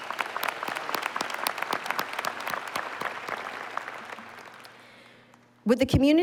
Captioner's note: applause